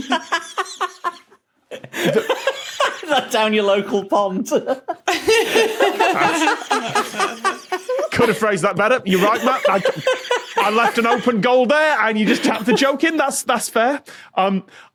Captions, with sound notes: (giggles) The— (surges cackle) Down your local pond? That's... (guests giggling) Could have phrased that better. You're right, Matt. (giggles profusely) I left an open goal there, and you just tapped the joke in. That's fair.